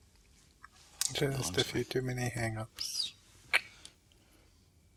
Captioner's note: tsk